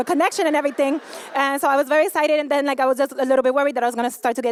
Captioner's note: laughter